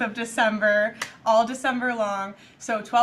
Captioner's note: claps